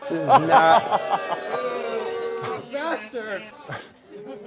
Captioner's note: boos